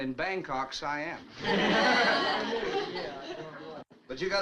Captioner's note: all chuckles